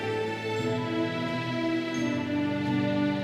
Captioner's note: none